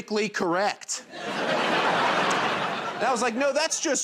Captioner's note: laughter